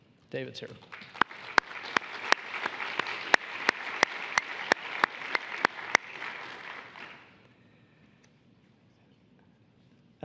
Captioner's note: applause